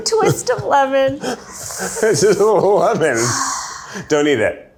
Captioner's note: laughing